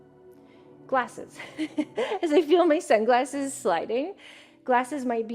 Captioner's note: chuckles